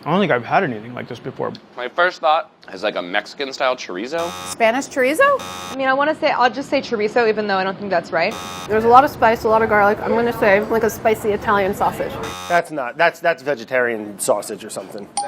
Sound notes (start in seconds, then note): 4.2 buzzing; 8.2 buzzing; 12.1 buzzing